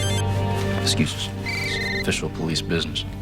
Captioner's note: phones ringing